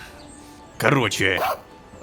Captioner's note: robodog barking